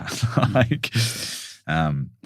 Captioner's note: laughs